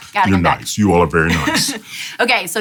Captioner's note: laughs